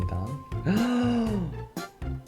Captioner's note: gasps